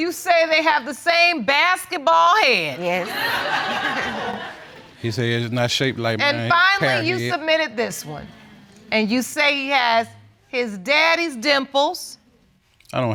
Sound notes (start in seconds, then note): 2.8 audience laughing